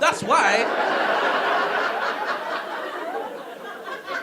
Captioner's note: audience laughing